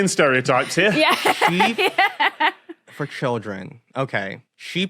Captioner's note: laughs